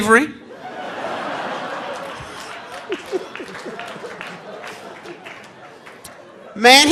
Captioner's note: audience laughing; audience applauding